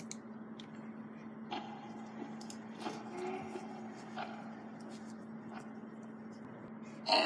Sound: Springtrap Noise

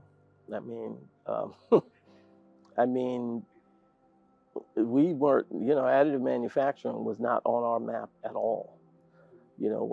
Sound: laugh

